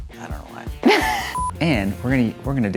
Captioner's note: laughs